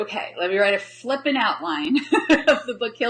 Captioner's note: laughs